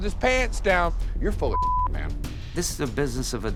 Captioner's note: beep